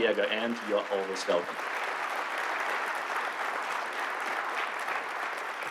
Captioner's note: applause